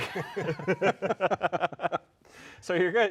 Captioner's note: all laughing